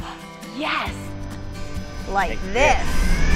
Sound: engine revving

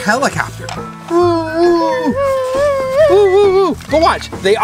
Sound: imitates propellor whirling

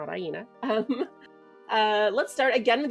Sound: chuckles

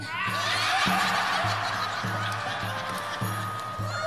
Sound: laughter

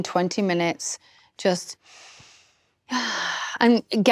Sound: inhales, exhales deeply

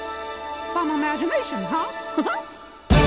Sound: laughs

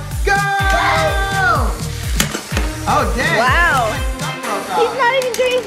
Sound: epic music; shouts of excitement

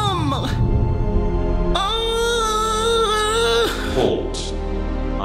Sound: dramatic music; howling

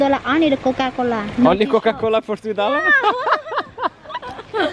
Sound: laughter

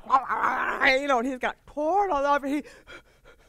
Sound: imitating dog bige

